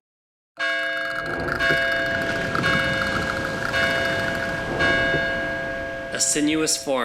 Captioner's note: bells Toll; Mussel Alarms Clatter